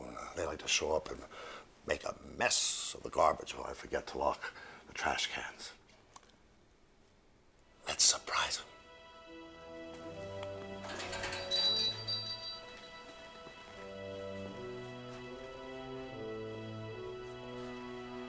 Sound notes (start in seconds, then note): 9.4 suspenseful music; 10.8 bells jingling